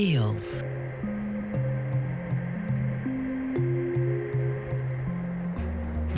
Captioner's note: gentle wind